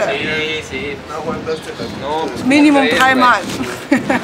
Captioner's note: laughs